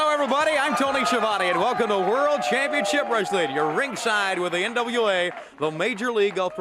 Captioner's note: crowd cheering